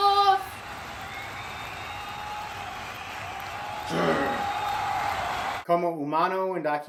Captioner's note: crowd cheering loudly; wrestler growls